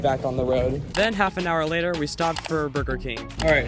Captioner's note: voiceover